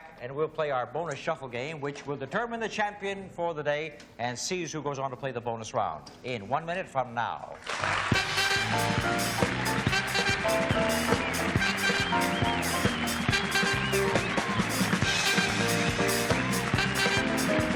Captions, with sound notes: We'll come back and we'll play our bonus shuffle game, which will determine the champion for the day and sees who goes on to play the bonus round. In one minute from now. [applause] [theme music]